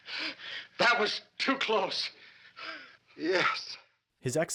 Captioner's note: gasping